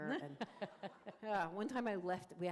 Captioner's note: laughter